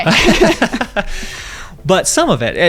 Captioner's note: laughing